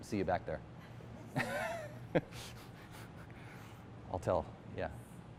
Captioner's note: laughter